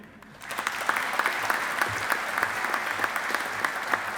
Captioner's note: audience applauding